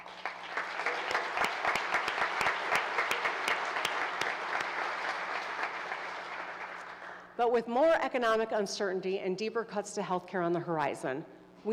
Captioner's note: applause